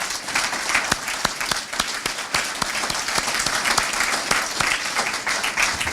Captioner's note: applause